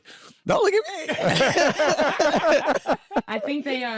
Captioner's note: all laughing